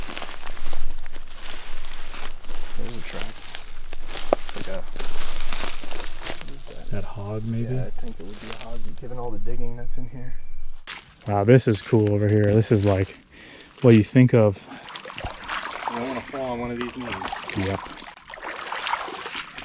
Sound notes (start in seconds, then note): 14.6 water sloshing